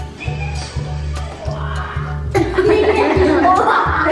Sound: laughing

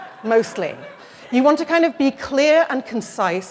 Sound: laughter

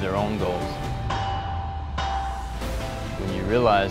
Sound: metal clanging

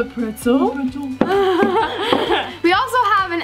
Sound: laughing

